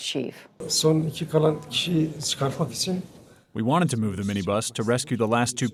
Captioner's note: through translator